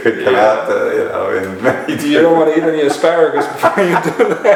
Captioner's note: laughter